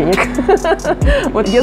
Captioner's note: laughs